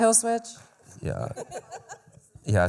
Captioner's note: laughter